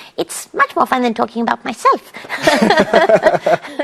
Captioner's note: as Dr. Ruth; both laughing